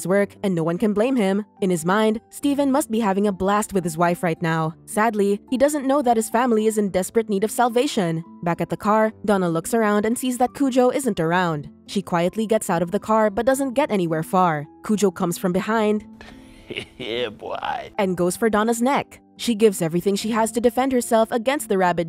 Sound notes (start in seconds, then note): 16.6 hehehe